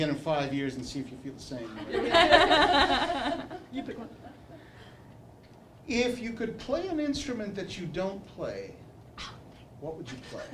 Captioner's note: laughter